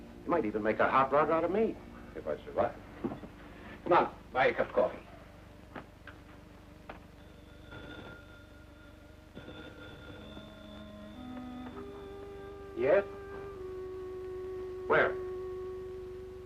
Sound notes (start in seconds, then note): 6.8 phone ringing; 10.3 somber music